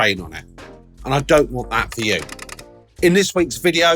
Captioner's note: machine clicking